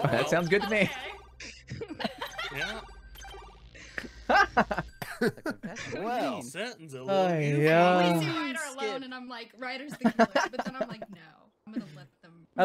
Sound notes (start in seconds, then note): 3.8 laughing